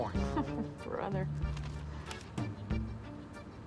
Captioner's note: chuckles